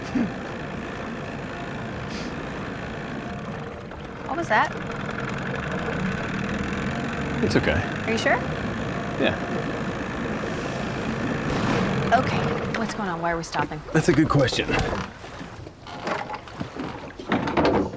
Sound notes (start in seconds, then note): 0.0 giggles; 3.3 engine slows, sputters; 6.3 engine sputters; 11.2 engine backfires; 16.0 lid clatters open